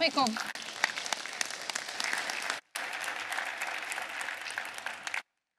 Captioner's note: applause